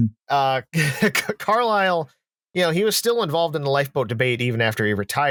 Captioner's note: laughs; laughs slightly